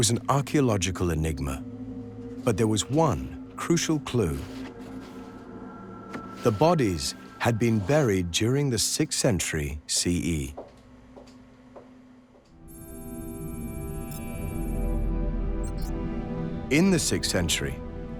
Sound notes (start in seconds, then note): 12.7 computer beeping; 14.8 tense music